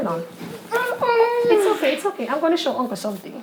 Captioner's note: whining